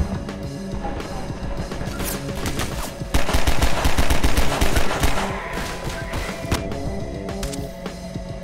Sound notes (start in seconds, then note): 1.9 gunshots